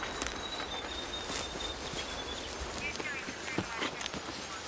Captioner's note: police radio chattering